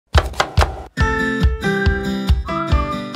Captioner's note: chopping; bright music